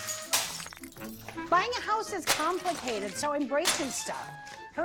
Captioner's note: glass breaking